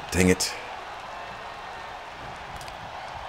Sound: applause

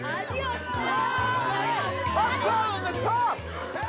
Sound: clamoring

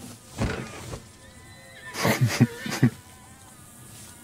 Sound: laughs

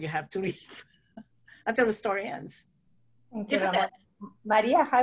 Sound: laughs

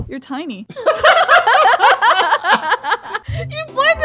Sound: both laughing

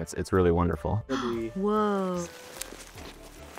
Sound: gasps

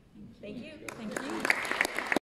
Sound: audience applauding

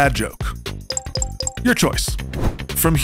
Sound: electronic pinging

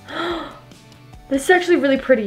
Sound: gasping

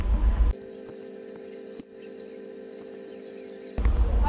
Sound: audio whizzing

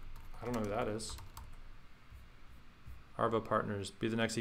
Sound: typing

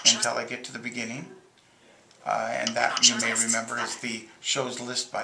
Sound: bonk

